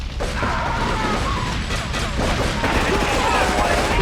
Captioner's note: screaming